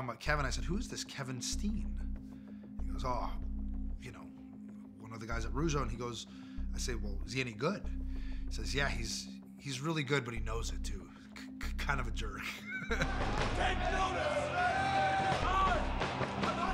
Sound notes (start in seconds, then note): 12.5 laugh